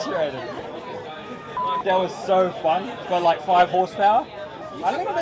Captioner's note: beep